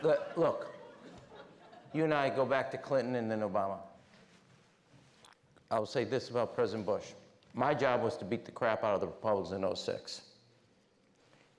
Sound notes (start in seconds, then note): 0.0 laughter; 4.5 back to normal voice